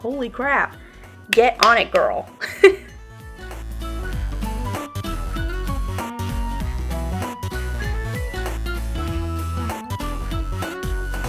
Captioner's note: clap; laugh